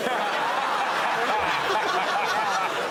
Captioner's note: laughter